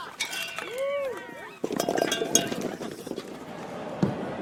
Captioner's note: metal clanging